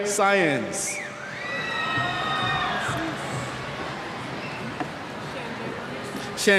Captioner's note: cheers